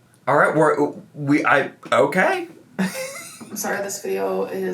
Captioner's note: laughs